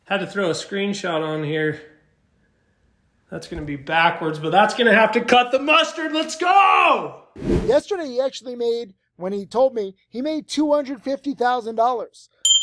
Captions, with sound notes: Had to throw a screenshot on here. That's gonna be backwards, but that's gonna have to cut the mustard. Let's go! (video whooshing) Yesterday he actually made, when he told me he made $250,000.